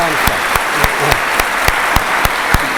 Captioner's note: applause